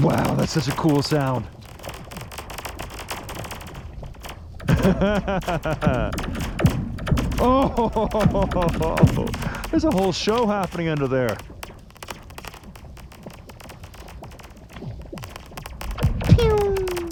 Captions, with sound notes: Wow, that's such a cool sound. (ice crackling) Oh! There's a whole show happening under there. (ice crackling)